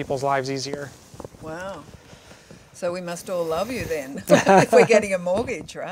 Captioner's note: laughing